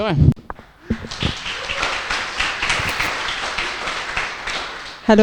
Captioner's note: applause